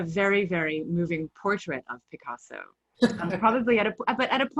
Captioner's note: laughs